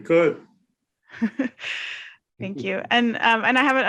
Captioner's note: chuckles